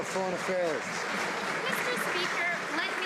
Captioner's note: some Applause